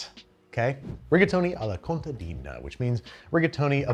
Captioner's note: air whooshes